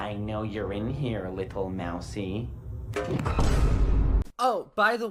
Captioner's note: Vine boom